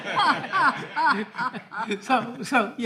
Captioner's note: all laughing